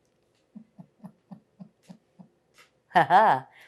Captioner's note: laughing